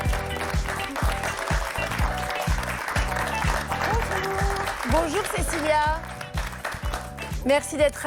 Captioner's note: applause